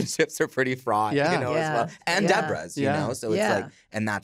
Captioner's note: all agreeing